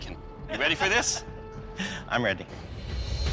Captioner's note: laughs; suspenseful music